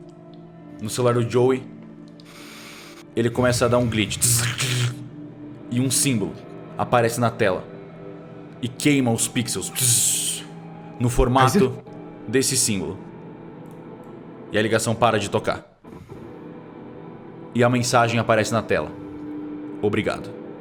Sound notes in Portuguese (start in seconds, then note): 4.1 glitch